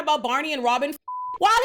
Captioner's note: beep